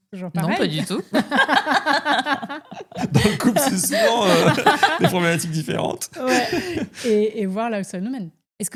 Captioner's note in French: rires